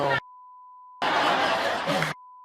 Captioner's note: audience laughing